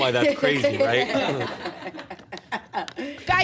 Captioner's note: laughs